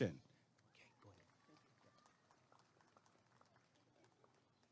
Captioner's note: applause and cheering